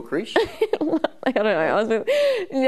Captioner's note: laughing